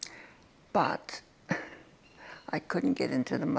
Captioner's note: chuckles